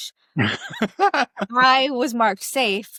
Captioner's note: laughs